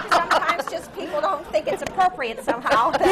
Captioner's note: laughter